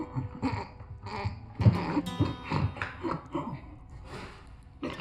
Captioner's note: melancholic guitar music; grunting